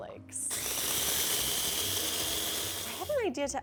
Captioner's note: blender buzzing